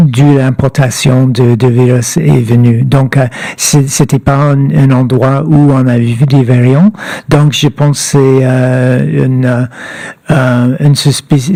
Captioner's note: speaking French